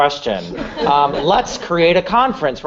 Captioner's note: laughter